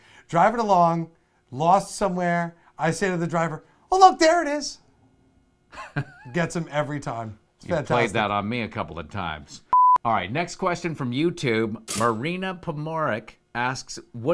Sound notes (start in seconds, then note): 5.7 chuckles; 9.7 test card beeps